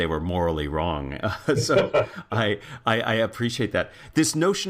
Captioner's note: laugh